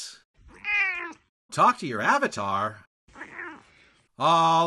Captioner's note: meow; meow!